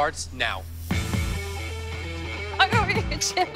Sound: laughing

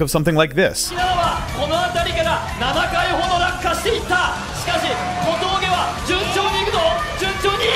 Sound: speaking foreign language

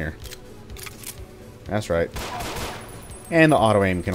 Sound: pew pew pew

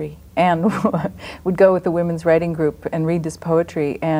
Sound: laughs

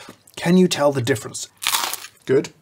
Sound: nice toast crunch

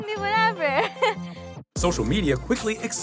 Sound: chuckles

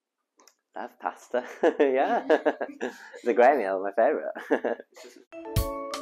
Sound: laughter

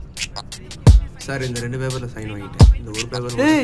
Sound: officer talking in background

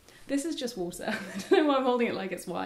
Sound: laughing

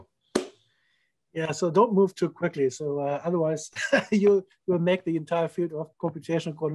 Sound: laughter

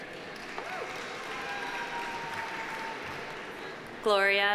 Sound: audience applauding

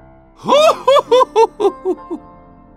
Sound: medic_laughhappy03

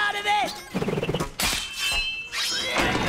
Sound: clattering

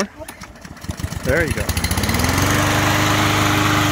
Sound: engine starts

